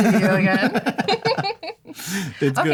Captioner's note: laughter